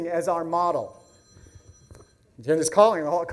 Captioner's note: phone rings